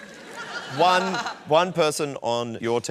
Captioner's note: laughter